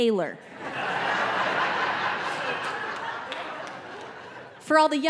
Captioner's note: audience laughing